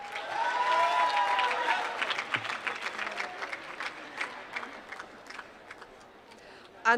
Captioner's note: applause